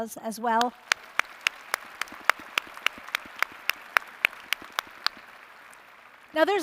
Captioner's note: applause